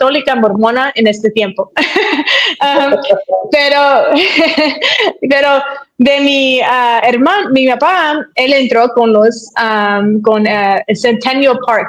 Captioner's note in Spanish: risas